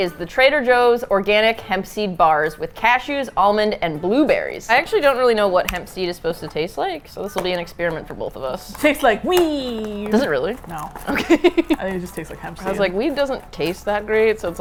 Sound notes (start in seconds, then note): 8.7 excitedly; 11.0 laughing